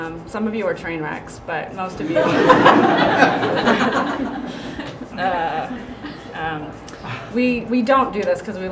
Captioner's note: laughter